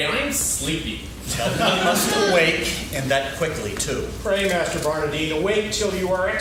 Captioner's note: laughing